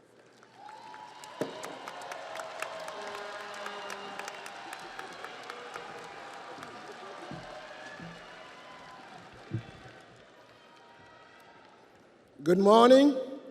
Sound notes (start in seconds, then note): 5.9 audience applauds; 5.9 audience cheers